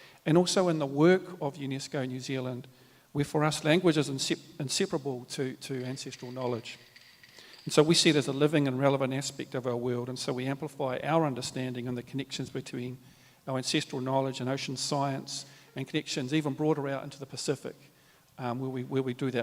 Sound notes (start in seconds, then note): 5.7 clap sticks rattle